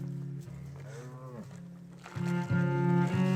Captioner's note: cows lowing; somber music continues